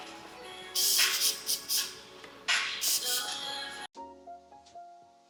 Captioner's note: spraying sounds